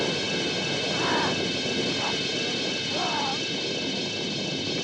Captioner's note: ghoul growling, grunting